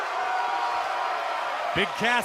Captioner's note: cheers & applause